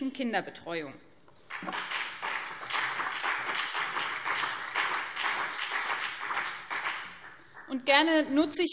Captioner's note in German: Beifall BÜNDNIS 90/DIE GRÜNEN und CDU